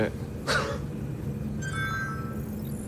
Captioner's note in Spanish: pitido